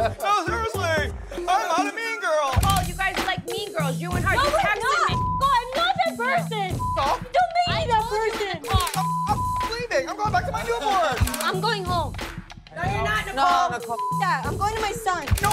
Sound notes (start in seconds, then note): 6.7 beep; 8.8 beep; 13.9 beep